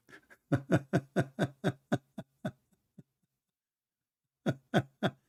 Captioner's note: Ketawa